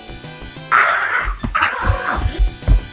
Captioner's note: alien screeches